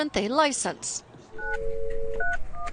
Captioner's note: phone dialing